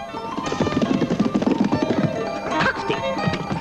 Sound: horse trotting

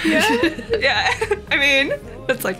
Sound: both laugh

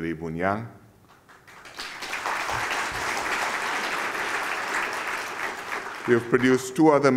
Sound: applause

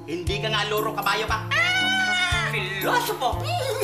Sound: cawing; neighs

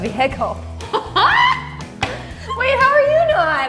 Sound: laughing

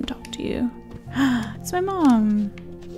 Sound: gasps

